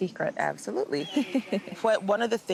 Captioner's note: laughter